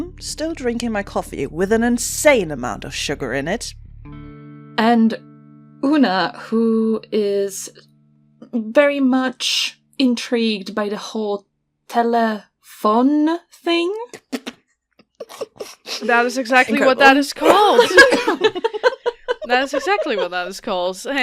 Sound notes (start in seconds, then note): 15.2 laughter; 17.4 laughter